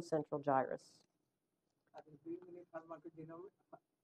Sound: off microphone

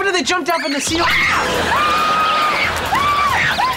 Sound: screaming

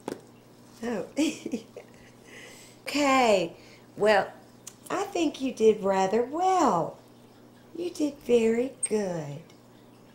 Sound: laughter

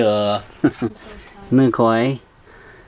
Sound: laughs

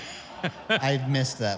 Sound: giggles

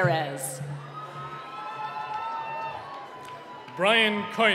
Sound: cheering

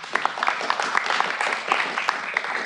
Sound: applause

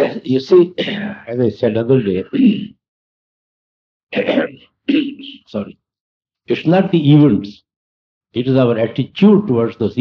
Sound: coughs

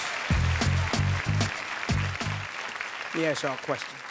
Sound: audience clapping

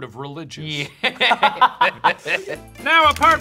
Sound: laughing

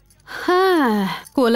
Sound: sighs

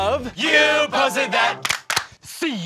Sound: clap clap

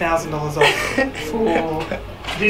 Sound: laughs

